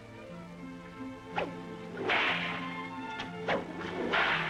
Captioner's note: cracking whip